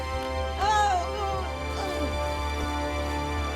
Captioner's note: groaning